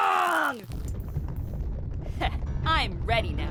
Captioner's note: distant rumbling